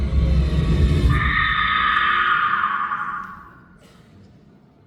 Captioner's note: screaming